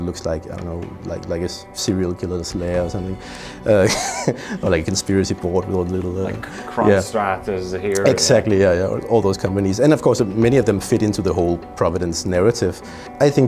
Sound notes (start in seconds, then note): 3.8 laughs